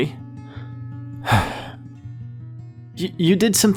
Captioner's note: sigh